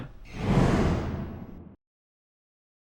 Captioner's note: air whooshing